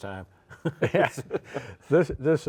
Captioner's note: both laughing